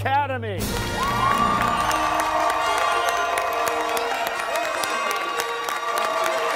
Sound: cheers and applause

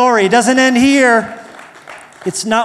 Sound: applause

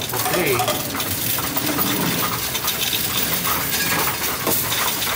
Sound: coins rattling

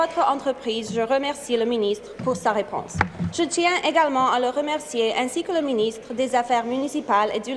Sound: speaking in French

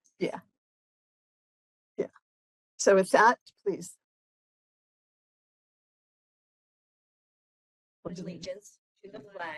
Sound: group speaking together

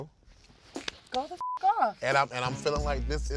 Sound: beep

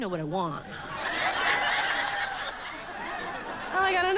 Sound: laughter and applause

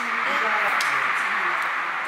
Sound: clap

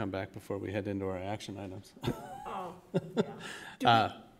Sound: laugh

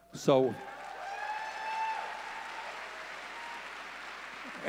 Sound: audience cheering

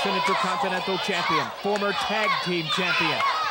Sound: crowd chanting "Tito, Tito!

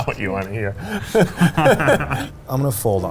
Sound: laughing

